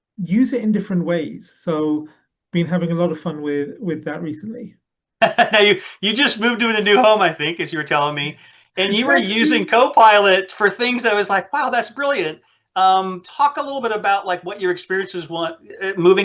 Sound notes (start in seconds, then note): 5.2 laughs